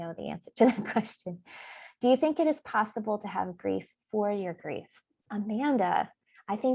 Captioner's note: laughs